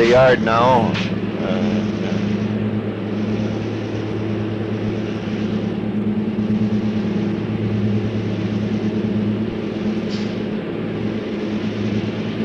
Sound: sound of the train moving

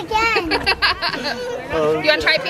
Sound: laughs

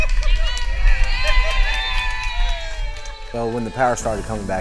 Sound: cheering

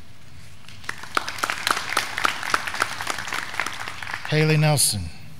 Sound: graduands clapping

